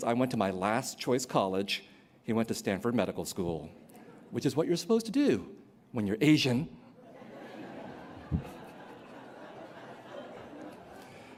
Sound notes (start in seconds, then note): 6.9 laughter